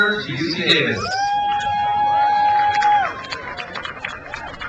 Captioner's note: crowd cheers